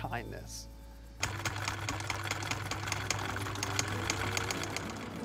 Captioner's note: machine whirring